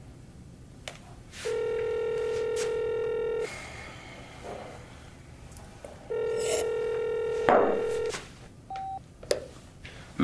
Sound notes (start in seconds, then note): 1.4 phone ringing; 3.4 Joseph sighs; 6.4 liquid slurps; 8.7 phone beeps